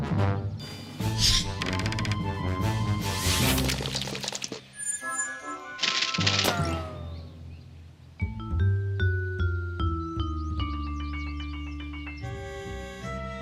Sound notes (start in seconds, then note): 1.1 whooshing; 5.7 whizzing